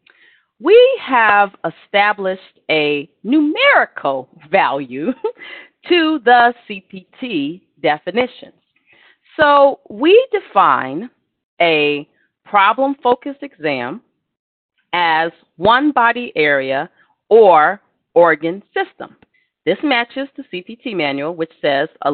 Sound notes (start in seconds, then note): 5.1 laughter